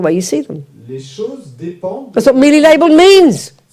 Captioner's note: French